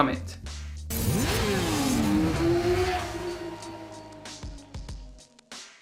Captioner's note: motorbike engine roaring